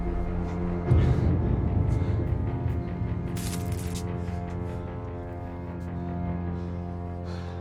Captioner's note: dramatic orchestral music; labored breathing